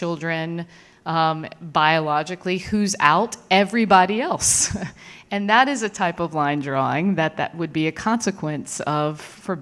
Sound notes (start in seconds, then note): 4.2 laughs